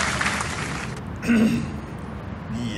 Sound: clears throat

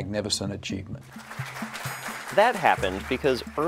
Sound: applause

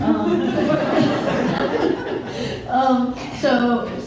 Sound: laughing

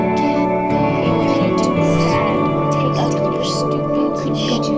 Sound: voices chattering

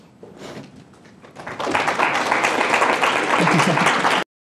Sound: applause

